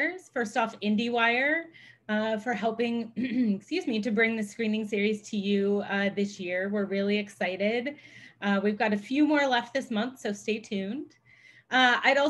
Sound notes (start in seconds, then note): 3.1 clears throat